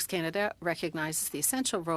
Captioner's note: speaking French